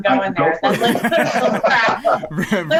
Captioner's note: all laugh